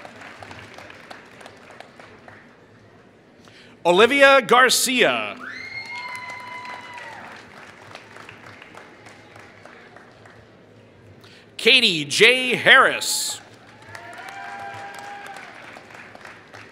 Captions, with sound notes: Olivia Garcia [Applause] Katie J. Harris [Applause]